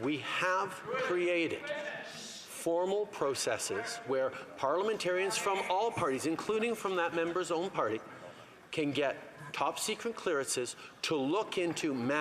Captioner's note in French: voix de l'interprète